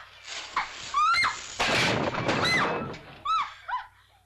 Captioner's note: crash; Nellie screams; Nellie yelps